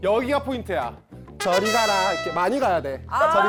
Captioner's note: bronx-style sound effect